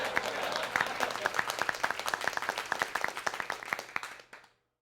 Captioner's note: laugh track; applause